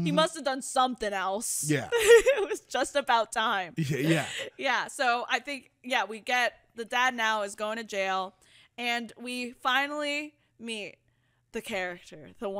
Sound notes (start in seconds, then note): 1.8 giggles